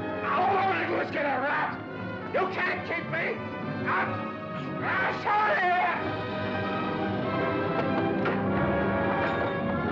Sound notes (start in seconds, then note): 4.7 cries out; 6.7 suspenseful music